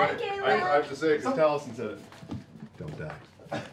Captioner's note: whispers